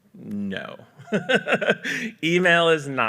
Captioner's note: laughs